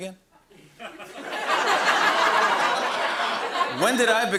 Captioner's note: laughter